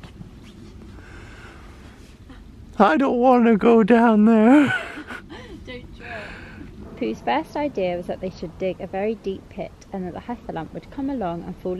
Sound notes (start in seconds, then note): 2.4 Pooh voice